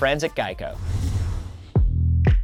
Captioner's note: whoosh